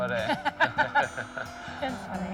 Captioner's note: laughing